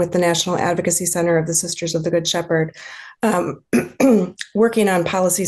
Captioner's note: clears throat